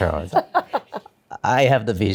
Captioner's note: laughs